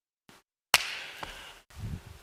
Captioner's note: claps